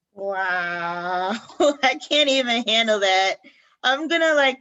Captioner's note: laughter